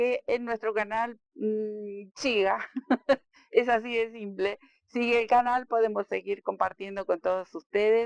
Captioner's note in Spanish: risas